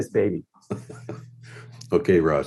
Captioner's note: laughing